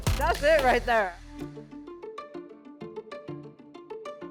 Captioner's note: slap hands